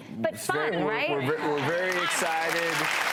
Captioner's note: audience applauds